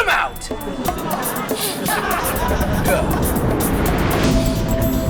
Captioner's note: loud sniffing; tense techno music